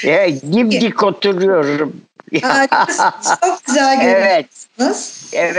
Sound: laughing

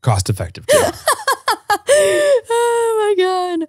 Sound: laughing

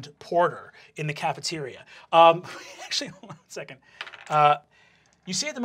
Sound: chuckling

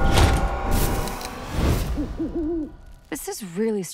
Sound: owl hoots

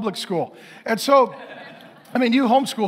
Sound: congregation laughing

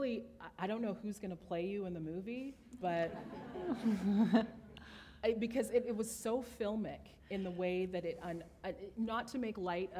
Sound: chuckle

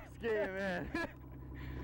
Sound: laughter

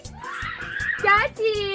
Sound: screaming

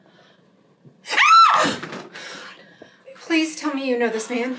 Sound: woman screams

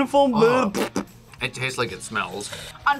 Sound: fart noises

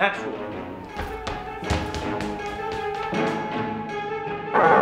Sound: feet pounding

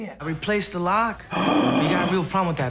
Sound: gasps

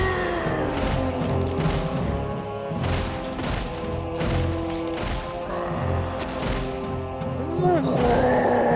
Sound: roaring

